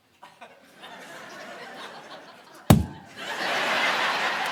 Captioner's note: audience laughing; mimics fist thud; audience laughing